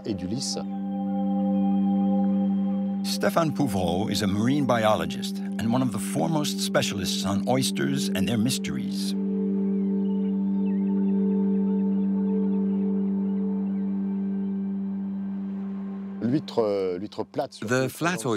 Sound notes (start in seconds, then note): 0.1 speaking in foreign language; 10.0 birds chirping; 10.0 gentle music; 16.4 speaking in foreign language